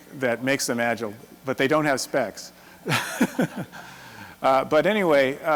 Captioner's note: laughs